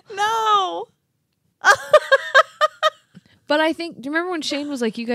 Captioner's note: laughing